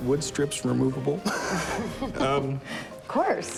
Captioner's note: laughs